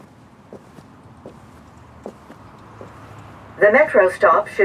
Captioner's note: footsteps thumping